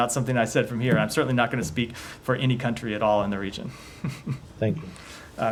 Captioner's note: laughter